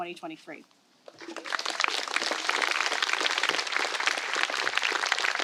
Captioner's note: applause